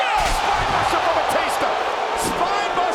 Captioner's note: applause